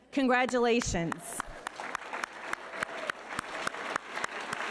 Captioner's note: all applauding